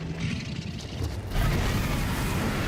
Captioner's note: drogon roars